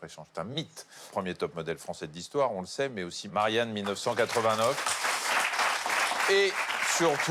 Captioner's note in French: applaudissements